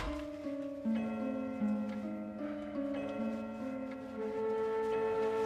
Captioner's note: clock striking the time